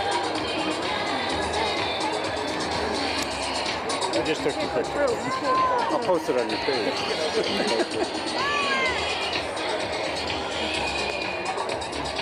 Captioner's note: cheering